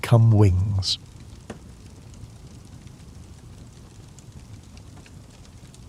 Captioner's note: ambient Campfire Sounds